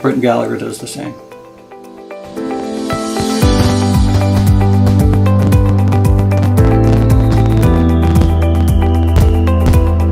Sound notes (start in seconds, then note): 2.9 soft pop music; 3.1 fireworks explode